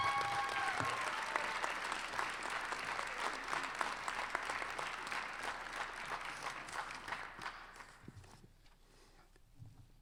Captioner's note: applause